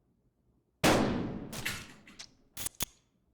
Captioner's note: gun fires